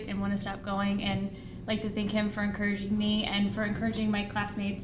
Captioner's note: none